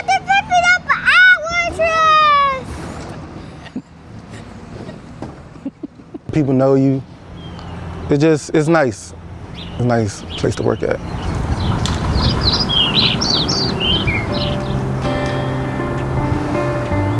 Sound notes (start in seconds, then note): 11.4 birds chirping; 13.4 soft music